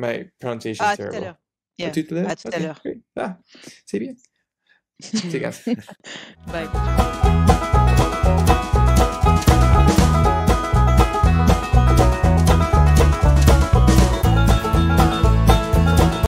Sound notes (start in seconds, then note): 3.8 speaking in foreign language; 7.5 upbeat music